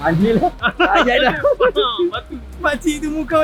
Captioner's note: laugh